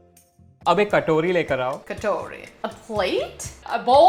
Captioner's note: repeating Hindi; speaking in Hindi